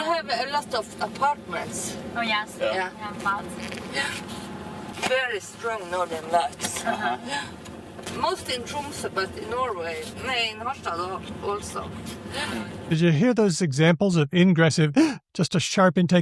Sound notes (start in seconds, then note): 8.2 gasps